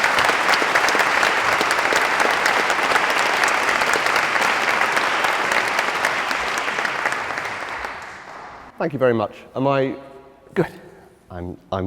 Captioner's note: applause